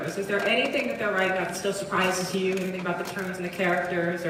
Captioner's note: none